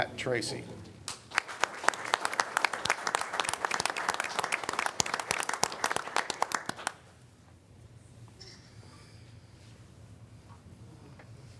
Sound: applause

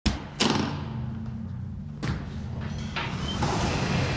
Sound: table clanging

